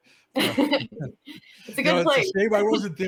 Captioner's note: laughter